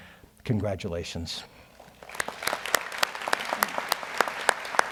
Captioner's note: audience applauds